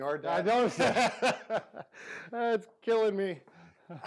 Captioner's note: laughing